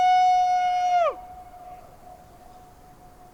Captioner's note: audio echoing